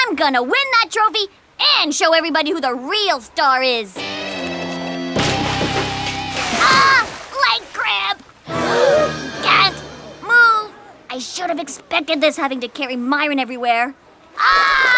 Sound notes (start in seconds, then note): 5.1 splash; 8.5 gasps